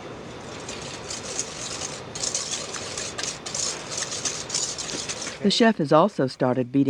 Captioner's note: whisking ingredients; voiceover